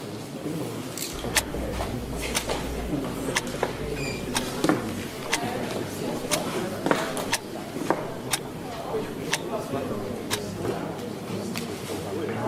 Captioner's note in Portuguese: Relógio tique-taqueando